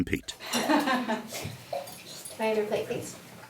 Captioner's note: person laughing